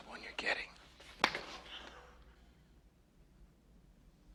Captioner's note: smacks